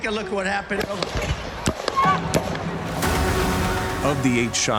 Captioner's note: gunshots firing